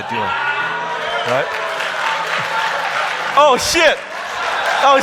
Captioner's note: audience laughing; audience applauding